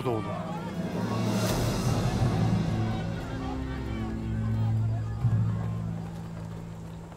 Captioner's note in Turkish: Kalabalık bağrışma sesleri